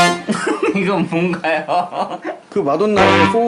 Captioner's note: laughing